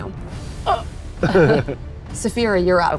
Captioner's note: groans; players laughing